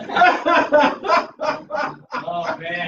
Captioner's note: laughter